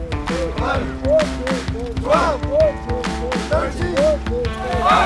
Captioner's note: cadets vocalizing